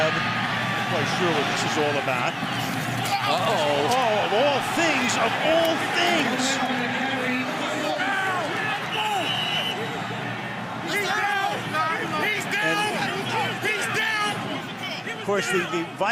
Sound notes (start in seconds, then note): 8.8 whistle blows